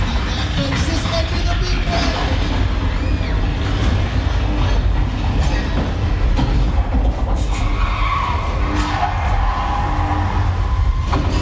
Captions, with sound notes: Look out, folks, this might be the big one! (people screaming) (vehicles crashing)